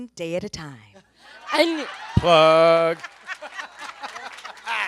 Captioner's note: everyone laughs